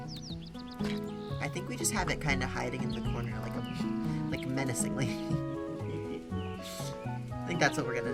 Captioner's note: giggles